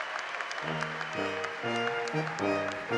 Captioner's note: applause